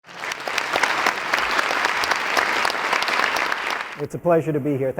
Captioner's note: audience applauding